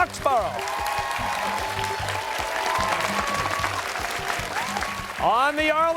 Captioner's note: cheers and applause